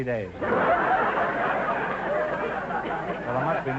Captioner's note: audience laughter